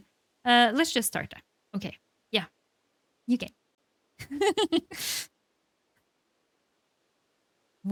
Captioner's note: laughs